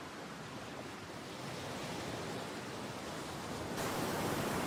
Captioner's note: waves splashing